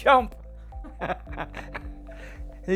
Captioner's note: laughs